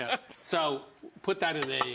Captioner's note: laughs